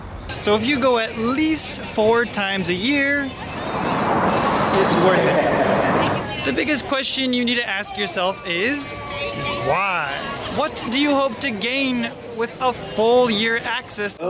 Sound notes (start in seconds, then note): 4.9 laugh